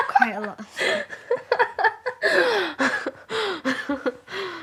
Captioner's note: laughing